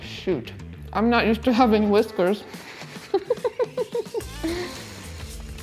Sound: laughs

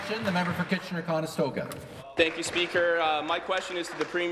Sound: applause

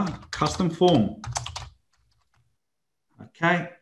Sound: computer keyboard keys tapping

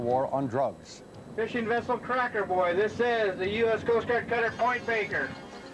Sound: captain on radio

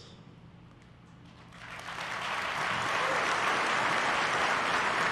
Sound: applause

